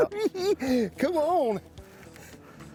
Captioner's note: cackling